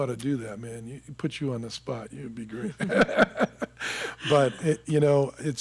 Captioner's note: laughing